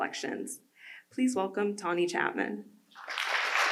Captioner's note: audience applause